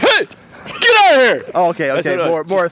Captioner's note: shouts